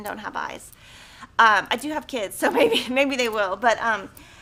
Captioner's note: laughing